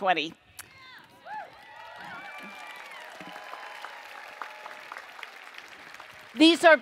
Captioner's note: cheering and Applause